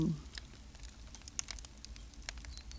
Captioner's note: soft crackling